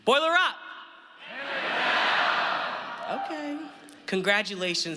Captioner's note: audience yells hammer down